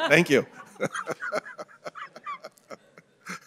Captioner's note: laughter